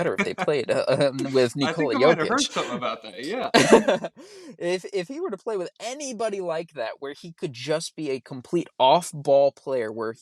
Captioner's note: laughs